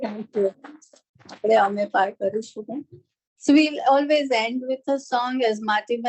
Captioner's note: non-english speech